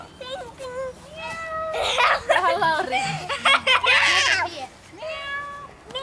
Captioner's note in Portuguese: Risos